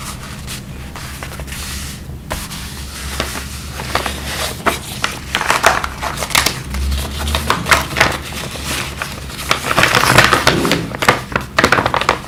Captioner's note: asmr audio followed